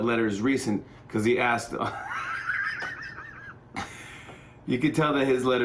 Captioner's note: laughter